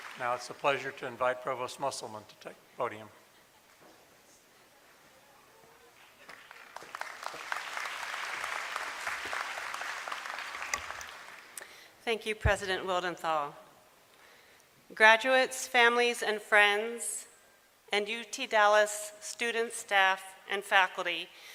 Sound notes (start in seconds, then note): 6.0 applause